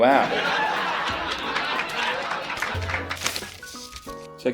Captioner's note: laugh track